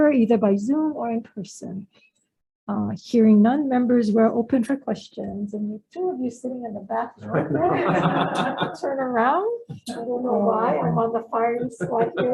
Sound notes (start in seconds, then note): 7.2 all laughing; 11.6 speaker's voice drowned out by laughter